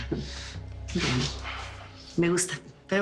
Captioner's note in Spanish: Ríe